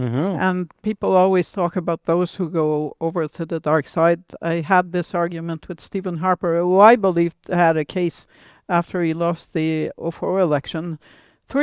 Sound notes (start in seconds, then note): none